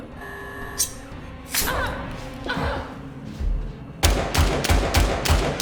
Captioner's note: Claire groans; knife flicks; gunshots banging